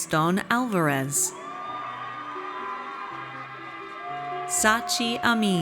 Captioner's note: audience cheers